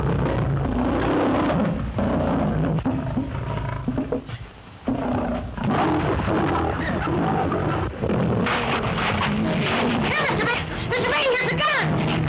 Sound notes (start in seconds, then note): 4.8 growls